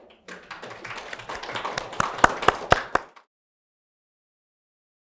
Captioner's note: applause